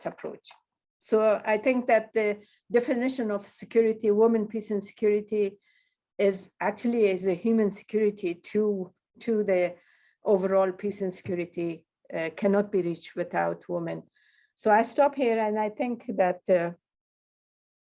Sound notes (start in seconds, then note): none